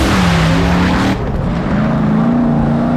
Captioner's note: engine rumbles